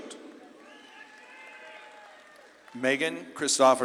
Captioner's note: audience claps and cheers